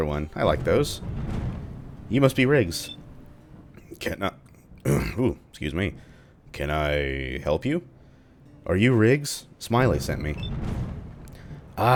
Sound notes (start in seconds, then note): 4.8 clears throat; 10.4 thunder